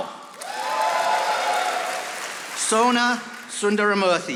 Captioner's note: audience applauding